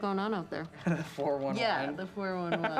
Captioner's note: laughs